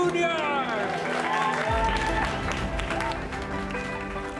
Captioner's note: cheering